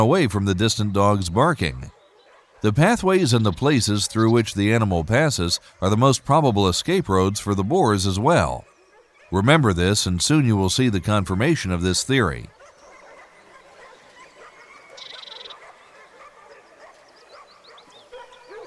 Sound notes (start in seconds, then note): 14.6 dogs barking